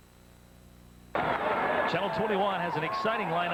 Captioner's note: stadium crowd noise